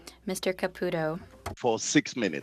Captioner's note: speaking french